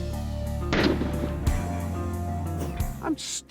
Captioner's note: slow motion gun shot